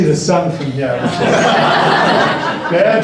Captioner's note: laughter